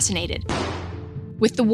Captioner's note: weapon firing